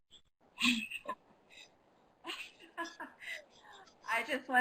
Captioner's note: laughing